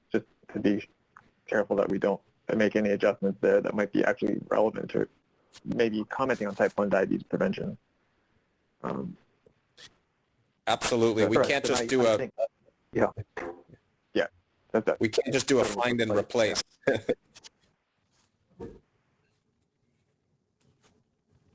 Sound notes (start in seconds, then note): 16.8 chuckles